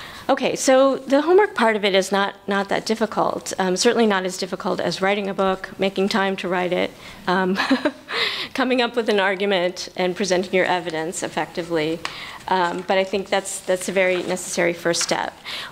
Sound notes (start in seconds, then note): 7.5 laughter